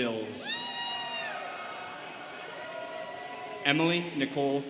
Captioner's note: students cheering